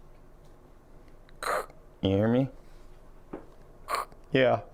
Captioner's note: imitates static